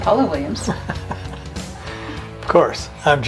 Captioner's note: chuckles